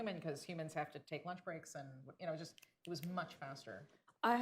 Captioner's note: snaps fingers